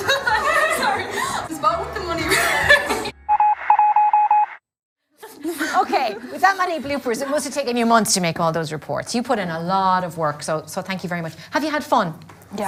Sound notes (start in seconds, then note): 2.6 laughing; 3.2 computer beep